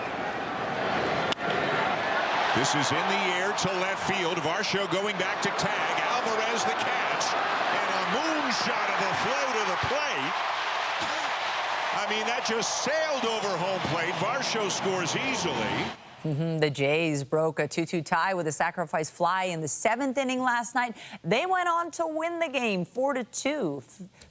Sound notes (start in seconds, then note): 15.9 applause